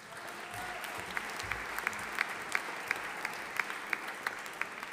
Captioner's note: audience applauding